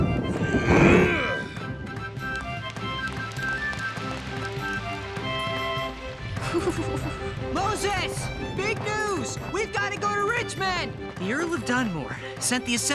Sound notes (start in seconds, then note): 0.7 grunts; 5.2 shivers